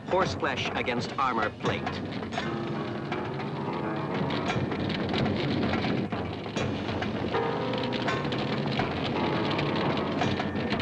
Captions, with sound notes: Horse flesh against armor plate. (ominous music) (flames crackling)